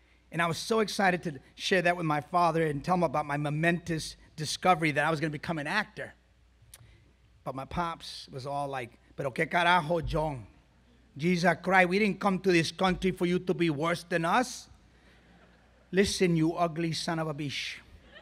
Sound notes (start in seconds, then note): 9.7 speaks foreign language